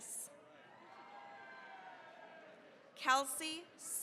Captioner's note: cheering, applause